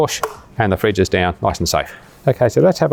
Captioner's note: lid clicks